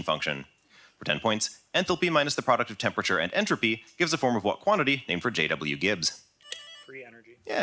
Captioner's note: buzz